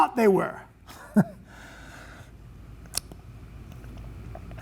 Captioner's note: chuckling